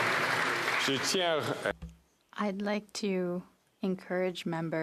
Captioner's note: applause